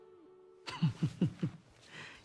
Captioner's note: laughs